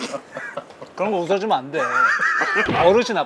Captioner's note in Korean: 웃음